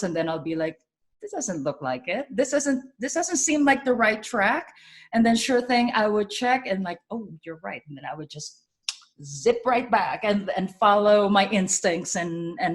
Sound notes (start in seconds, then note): 8.8 clicks tongue